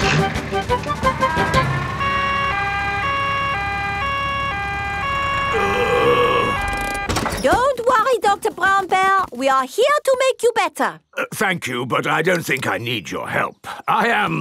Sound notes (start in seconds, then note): 1.2 siren wailing; 5.5 groaning